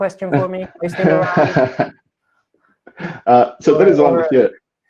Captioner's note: laughing